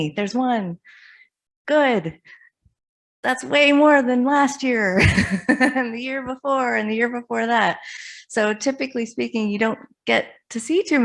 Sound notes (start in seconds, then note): 5.3 laughs